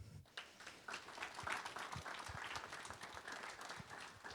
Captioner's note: applause